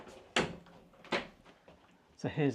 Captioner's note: door clunking